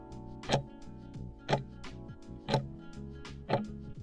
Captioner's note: timer ticking